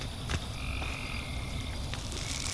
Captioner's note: crickets